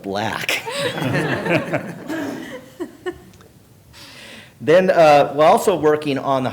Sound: laughter

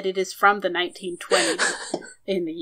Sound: laughs

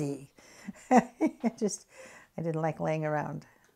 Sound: laughs

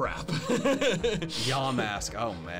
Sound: laughs

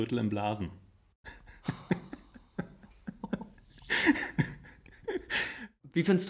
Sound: laughs

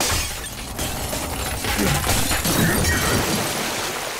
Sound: shattering

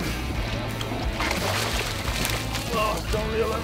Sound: water splashes

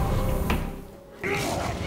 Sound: growling

